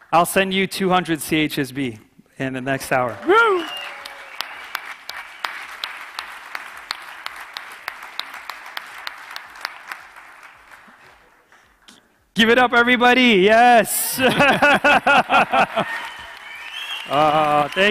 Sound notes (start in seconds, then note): 2.6 audience cheering; 14.1 laughing